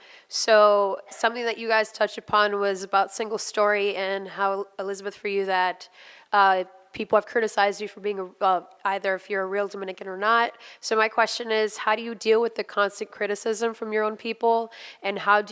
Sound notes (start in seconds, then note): none